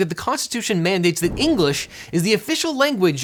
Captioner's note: air whooshing